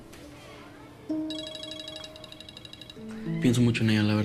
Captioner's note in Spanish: Suena el celular